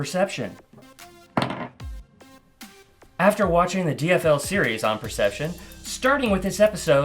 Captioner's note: dice Roll - Low